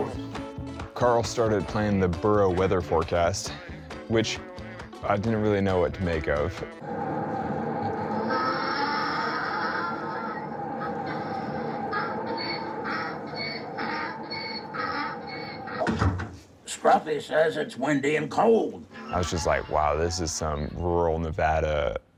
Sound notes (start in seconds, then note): 7.4 donkey braying